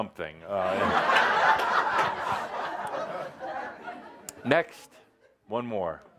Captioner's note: laughter; lots of laughter